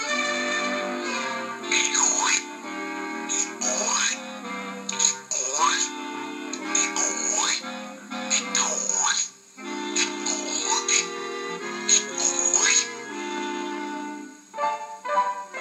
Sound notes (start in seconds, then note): 1.7 slurp Slurp Slurp